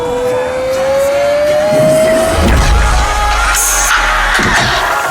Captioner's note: audience cheering